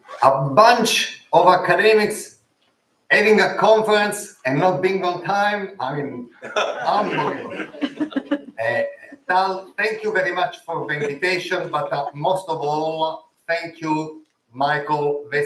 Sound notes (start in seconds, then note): 6.4 laughter